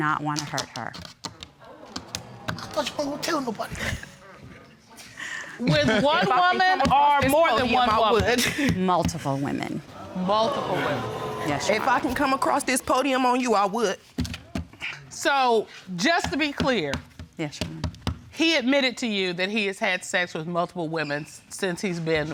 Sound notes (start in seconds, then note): 1.6 audience exclaiming